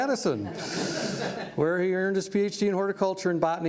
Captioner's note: laughter